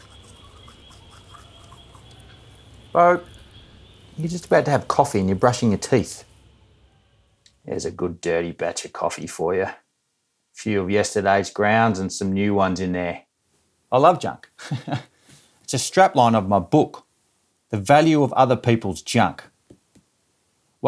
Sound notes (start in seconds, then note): 0.0 brushing teeth